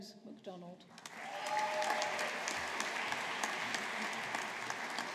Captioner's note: audience applauding